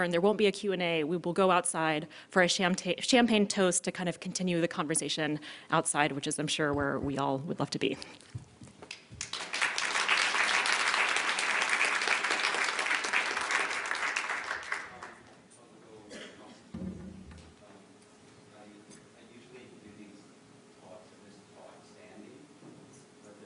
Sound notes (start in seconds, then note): 8.9 applause